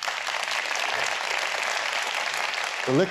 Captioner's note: applause